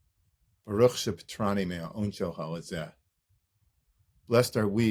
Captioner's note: speaking Hebrew